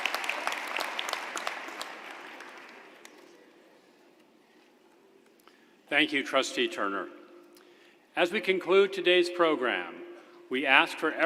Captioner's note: applause